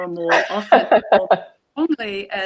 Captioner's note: laughing